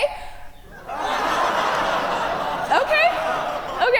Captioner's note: audience laugh